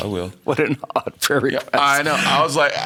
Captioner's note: laughing